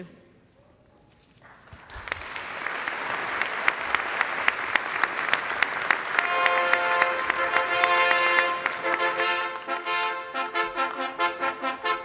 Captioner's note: applause